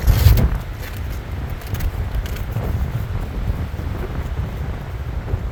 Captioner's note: wind howling